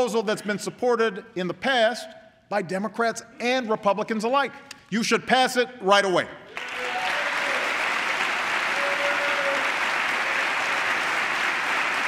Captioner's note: applause